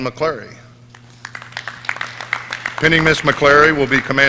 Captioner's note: audience clapping